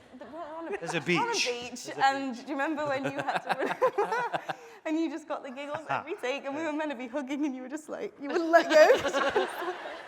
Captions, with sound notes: - There's a beach. - We're on a beach. And do you remember when you had to (voice muffled) and you just got the giggles every take and we were meant to be hugging and you were just, you were like this?